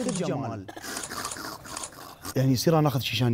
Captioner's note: snort-laughing